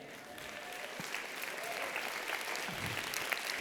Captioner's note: applause